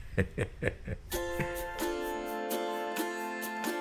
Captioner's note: laughs